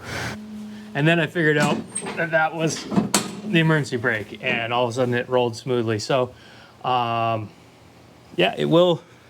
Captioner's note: surprise as engine turns over